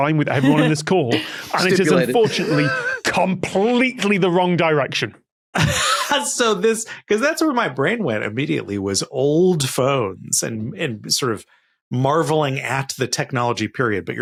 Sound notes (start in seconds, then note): 5.7 wheezes